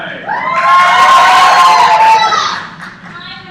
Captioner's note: cheers